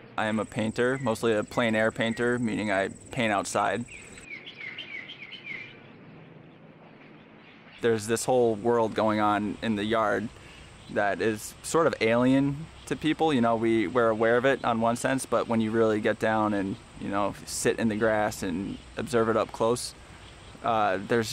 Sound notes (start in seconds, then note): 5.3 birds chirping